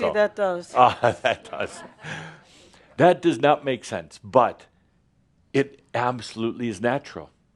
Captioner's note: Adamus chuckles